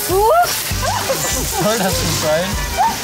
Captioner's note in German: Lachen, Stimmengewirr